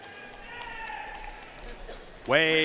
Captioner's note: audience cheering and applauding